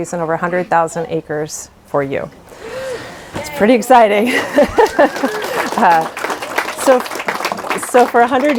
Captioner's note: applause